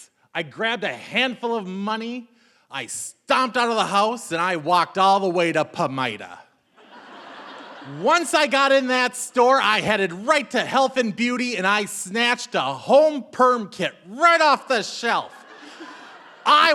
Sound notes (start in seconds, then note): 6.8 audience laughing